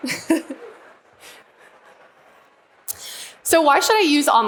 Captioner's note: laughing